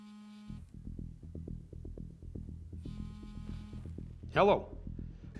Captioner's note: cell phone buzzes